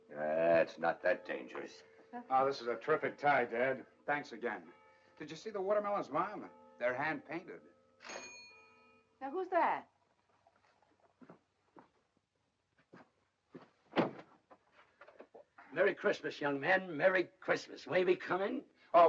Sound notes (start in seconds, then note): 7.5 doorbell rings; 13.9 door opens